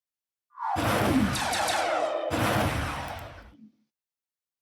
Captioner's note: gunshots